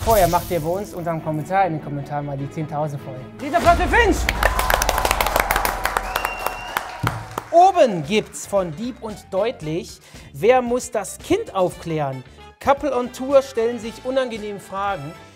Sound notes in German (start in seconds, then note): 3.9 Jubel, Applaus